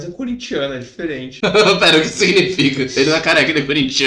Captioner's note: laughing